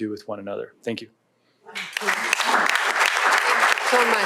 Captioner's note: applause